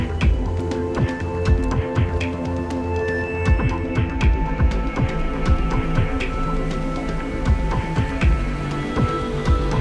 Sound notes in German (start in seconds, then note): 7.2 Rauschen des Wassers